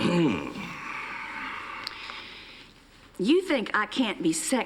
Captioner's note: clears throat